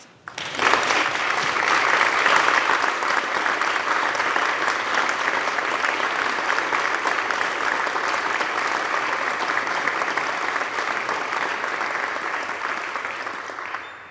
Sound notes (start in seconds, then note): 4.1 applause